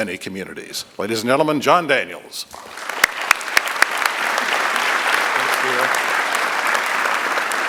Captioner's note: applause